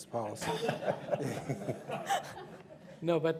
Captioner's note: scattered laughter